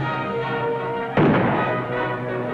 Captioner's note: gunshot